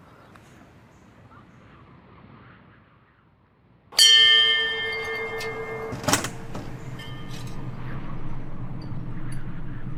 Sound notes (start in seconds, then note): 4.0 bell ringing